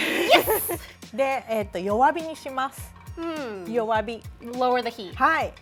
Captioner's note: speaking Japanese